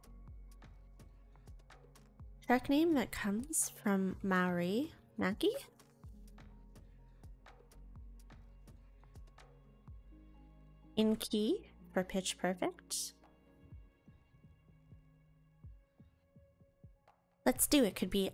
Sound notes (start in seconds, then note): none